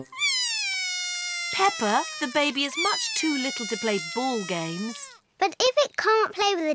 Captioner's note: bawls